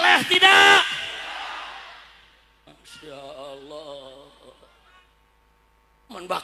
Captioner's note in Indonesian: berteriak